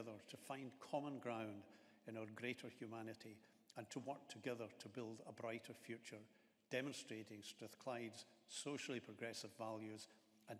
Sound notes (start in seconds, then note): none